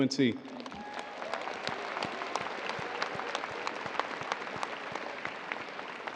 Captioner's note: audience cheering and applauding